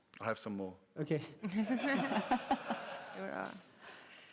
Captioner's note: laughter